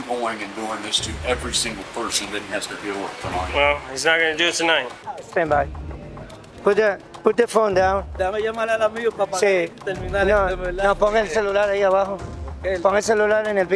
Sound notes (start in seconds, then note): 8.4 both speaking Spanish